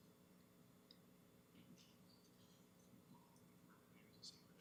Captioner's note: whispering